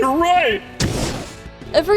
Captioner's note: fwoosh